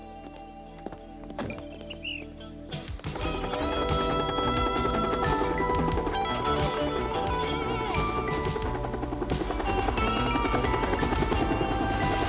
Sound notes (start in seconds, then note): 3.6 helicopter whirring